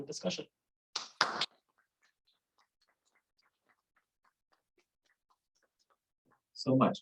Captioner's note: applause